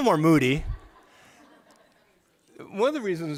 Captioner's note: laughter